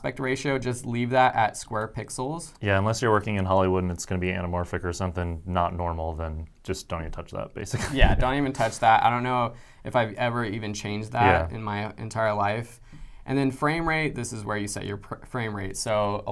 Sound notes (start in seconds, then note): 7.7 chuckles